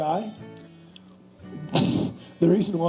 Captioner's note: laughing